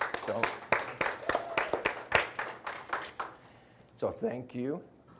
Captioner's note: audience applauds